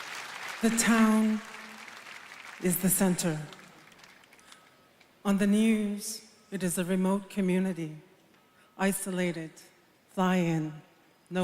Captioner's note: applause